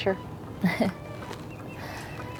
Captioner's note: laughs